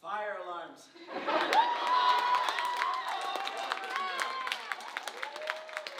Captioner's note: audience cheering and laughing